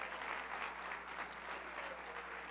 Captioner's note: applause